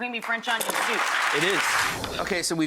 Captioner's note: audience clapping